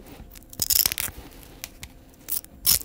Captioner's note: Crunch